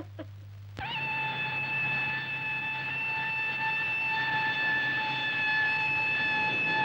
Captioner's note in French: sirène